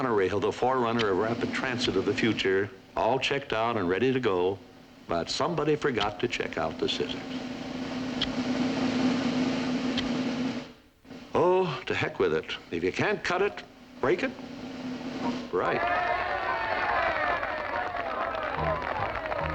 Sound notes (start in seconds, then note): 7.7 drumroll continues; 15.6 cheering